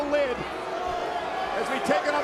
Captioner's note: crowd boos